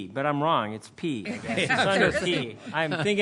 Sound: laughter

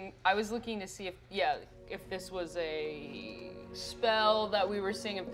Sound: none

